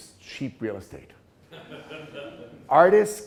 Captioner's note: class laughing